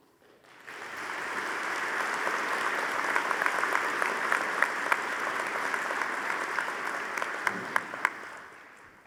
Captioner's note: audience applauding